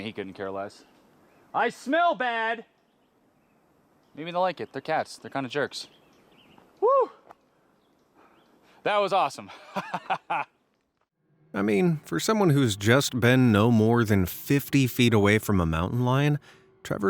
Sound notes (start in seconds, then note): 7.2 person shouting; 9.5 person laughing